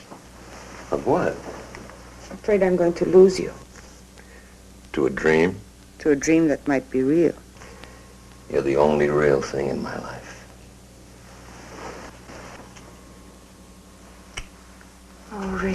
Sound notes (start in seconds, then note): none